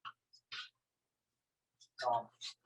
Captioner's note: silence